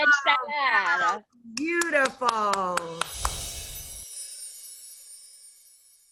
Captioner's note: clapping